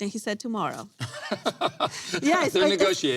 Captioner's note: laughing